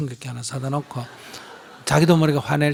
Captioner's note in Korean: 청중 웃음